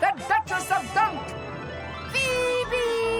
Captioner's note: none